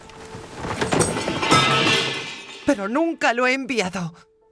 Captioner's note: metal clatters